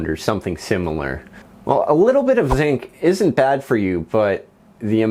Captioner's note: whoosh